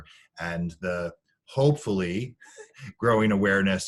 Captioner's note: laughing